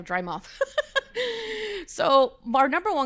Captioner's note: laughing